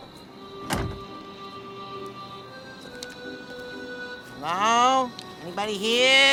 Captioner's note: engine shuts off; car door opens